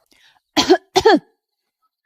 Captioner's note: cough cough